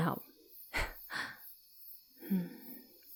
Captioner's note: laughing softly, before quieting and taking on a serious expression